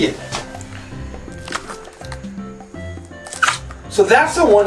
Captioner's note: slime squelching